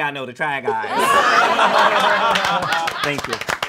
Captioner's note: all laughing